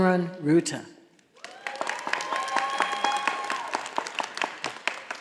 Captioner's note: audience applauding